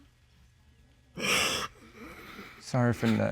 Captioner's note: continues sobbing